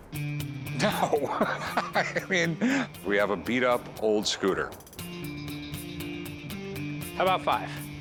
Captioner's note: laughs